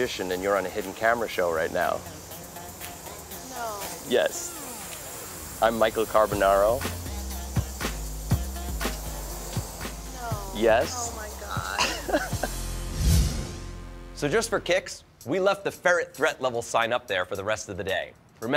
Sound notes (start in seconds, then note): 10.9 laughs